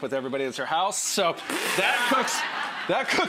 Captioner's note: crowd laughs